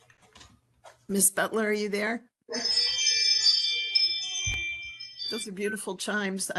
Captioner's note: ring chimes in the background